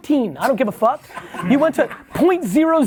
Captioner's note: laughs